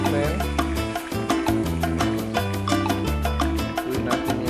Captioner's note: sizzle